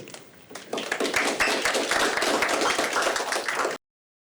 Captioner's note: applause